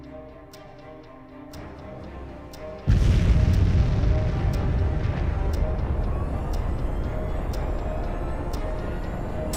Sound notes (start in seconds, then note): 2.8 ignition sound; 6.1 rocket launching sound